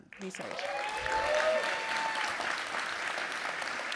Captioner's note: applause